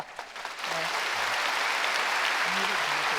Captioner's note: applause